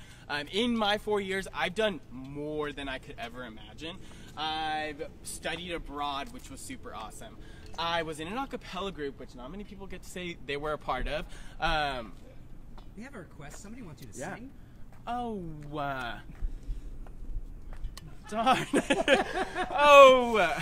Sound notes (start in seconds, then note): 18.0 laughter